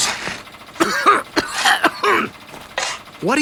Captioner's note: coughing